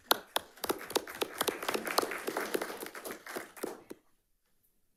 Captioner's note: audience applauding